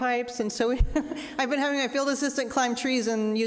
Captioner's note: laughing